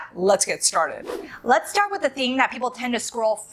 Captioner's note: air whooshes